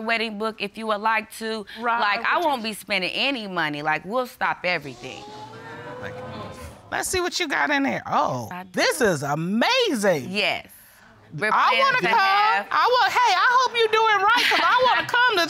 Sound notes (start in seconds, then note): 4.9 audience gasps